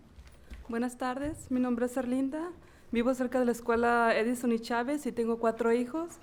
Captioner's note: speaking in foreign language